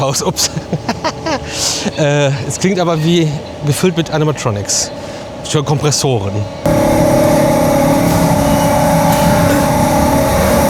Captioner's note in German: gelächter